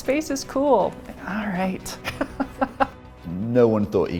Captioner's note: laughs